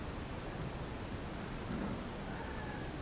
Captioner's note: bang; ladies scream